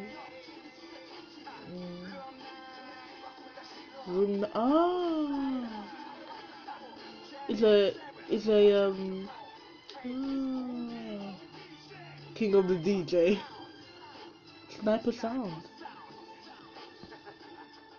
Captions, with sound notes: king of the DJ *scoffs* sniper sound.